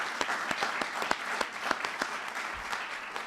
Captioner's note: applause